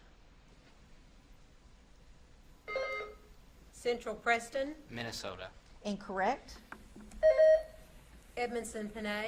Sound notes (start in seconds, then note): 2.7 buzzer beeps; 7.2 buzzer beeps